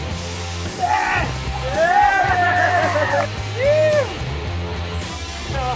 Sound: cheering

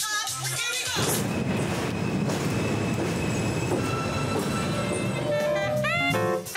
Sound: squeal of train brakes pulling into station

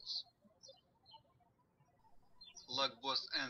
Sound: birds chirping

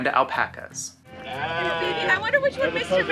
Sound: sheep baas

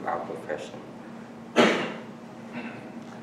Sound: coughing in background

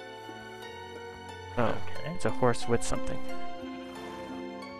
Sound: confused

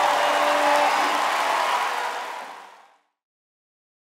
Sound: audience applause

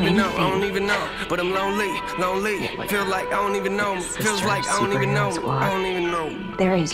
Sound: chuckles

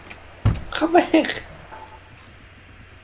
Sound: hits desk

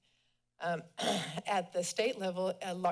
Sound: clears throat

